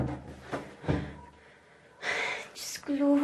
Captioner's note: door closes; panting